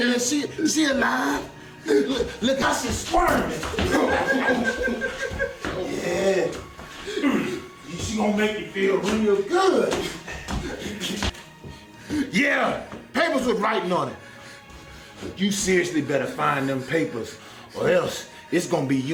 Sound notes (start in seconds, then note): 3.7 evil laughter and giggles